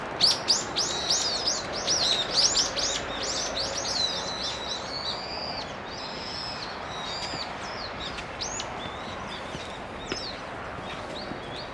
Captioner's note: bird